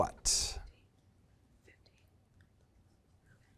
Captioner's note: whispers